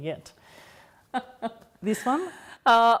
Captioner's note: laughing